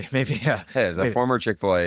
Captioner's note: laughs